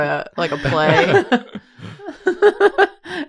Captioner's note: laughs